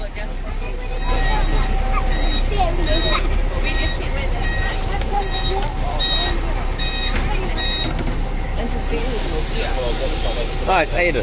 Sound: bus Squeaking; general Chatting

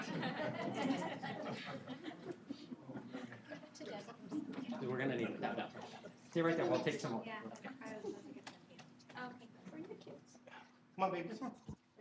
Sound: laughter

